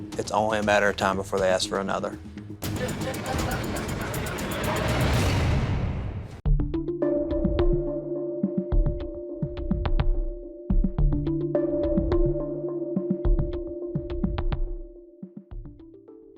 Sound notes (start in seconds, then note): 2.6 laughing; 4.2 ominous music playing